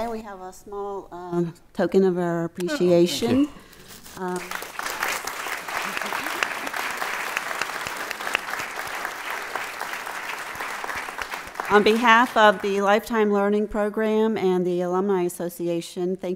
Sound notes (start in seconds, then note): 4.2 audience clapping